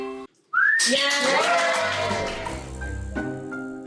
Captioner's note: clapping